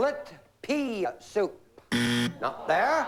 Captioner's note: buzzer